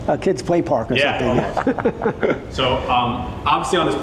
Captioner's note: laugh